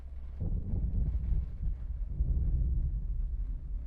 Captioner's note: thunder rumbling